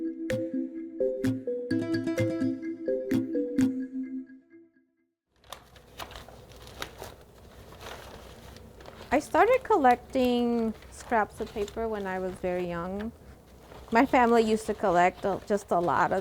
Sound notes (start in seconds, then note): 2.4 gentle music continues; 8.1 paper rustles